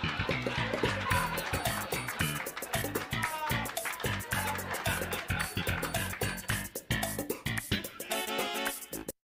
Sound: laugh track

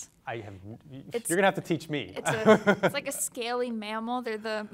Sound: chuckles

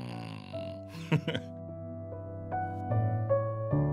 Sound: laughs; piano music

